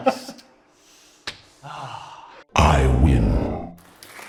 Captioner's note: sighs; monster growls; deep voice